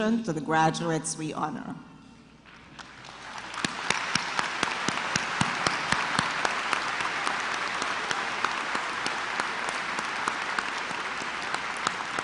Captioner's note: applause